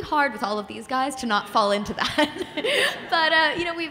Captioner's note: laughs